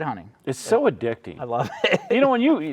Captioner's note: laughing